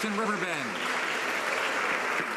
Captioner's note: some Applause